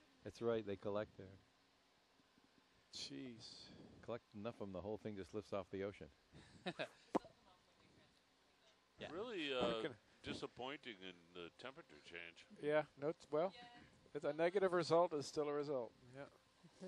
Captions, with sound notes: --That's right, they collect there. --Cheez! --Collect enough of them and the whole thing just lifts off the ocean. [laughter] [lip popping sound] --Really, uh, disappointing in the temperature change. --Yeah, note, well...if a negative result, is still a result. Yeah.